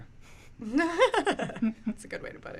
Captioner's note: laughing